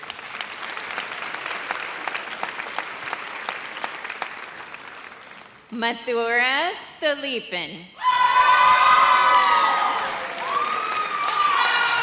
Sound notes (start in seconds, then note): 0.0 audience applauds; 8.0 audience cheers